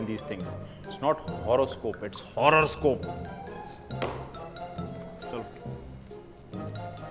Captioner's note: bangs his tea mug on the counter & walks away